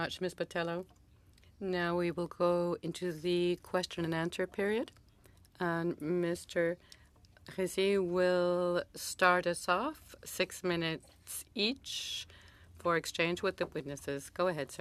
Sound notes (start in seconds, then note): 1.9 speaking french